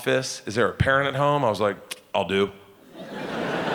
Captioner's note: audience laughing